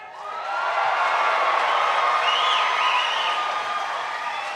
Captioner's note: graduates cheering